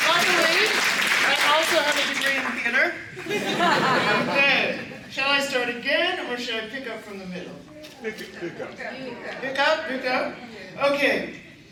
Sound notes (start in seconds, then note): 3.1 laughter